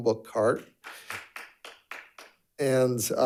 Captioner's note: audience applauding